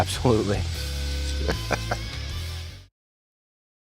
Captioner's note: laugh